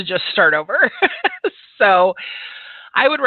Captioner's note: laughs